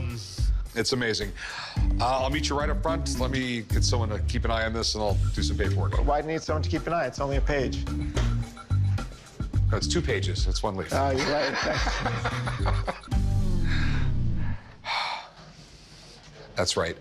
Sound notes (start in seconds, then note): 11.2 laughs